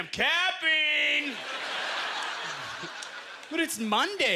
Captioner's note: audience laughter